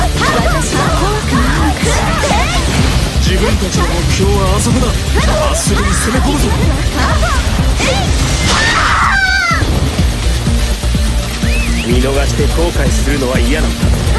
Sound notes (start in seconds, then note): 7.8 KO Scream; 11.3 splash!